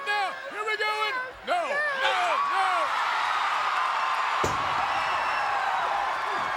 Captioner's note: crowd cheering